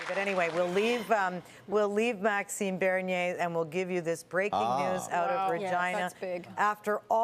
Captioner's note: applause